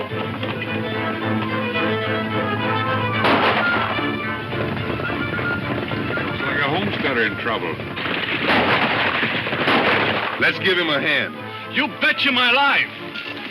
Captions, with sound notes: (gunshots) - Looks like a homesteader in trouble. (gunshots) - Let's give him a hand. - You betcha my life.